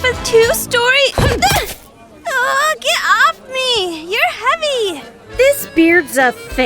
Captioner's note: grunts